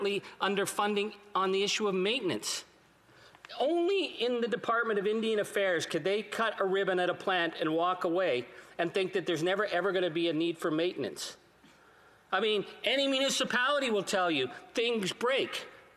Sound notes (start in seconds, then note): none